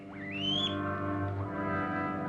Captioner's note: guinea pig squeaking